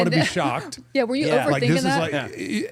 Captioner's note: participant chuckling